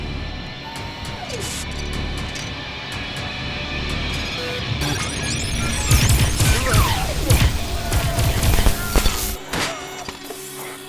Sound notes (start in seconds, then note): 4.8 device bleeps; 8.0 blaster beams crackle; 9.7 gang shout